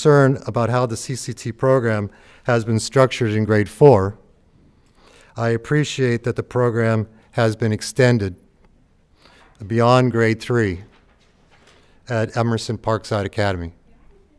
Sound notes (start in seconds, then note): none